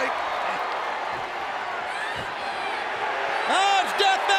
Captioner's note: crowd cheering